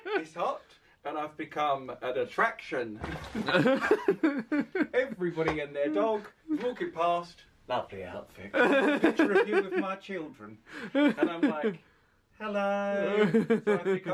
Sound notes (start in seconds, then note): 3.4 laughs